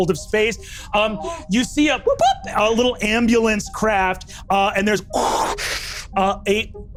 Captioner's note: exhales